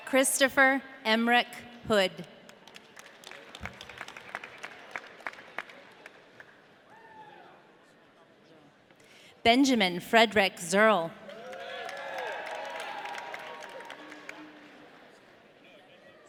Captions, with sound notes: Christopher Emerick Hood. (audience clapping) Benjamin Frederick Zirl. (audience cheering)